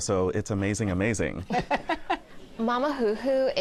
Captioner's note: laughs